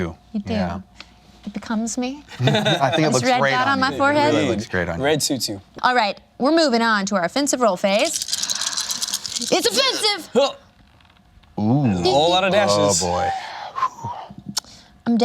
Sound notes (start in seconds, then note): 2.3 laughs; 7.9 dice rattling